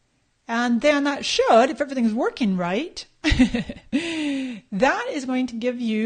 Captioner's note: laughs